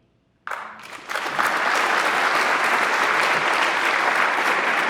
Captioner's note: audience applauds